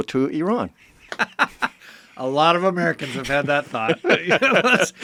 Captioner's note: laughs